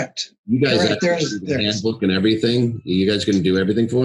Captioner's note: fumbles